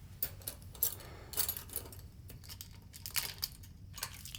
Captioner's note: keys jangling